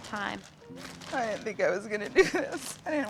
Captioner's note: crying